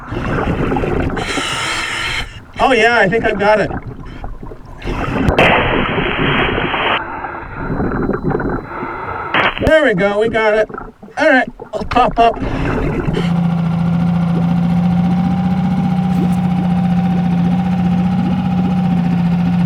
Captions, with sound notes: Oh, yeah, I think I've got it. (water burbling) There we go, we got it. All right, we'll pop up. (boat whirring) (water burbling)